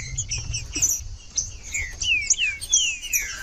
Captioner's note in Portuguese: trinca ferro cantando